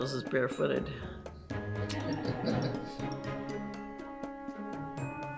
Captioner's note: laughter from behind the camera